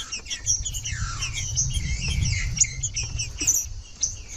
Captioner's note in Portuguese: trinca ferro cantando